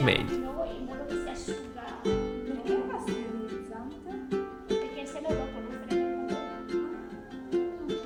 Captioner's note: nun and talking in Italian; guitar music ends